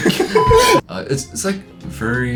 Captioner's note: everyone chuckles; beeps